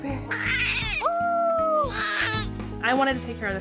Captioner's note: baby cries